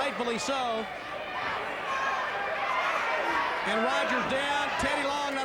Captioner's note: fans shouting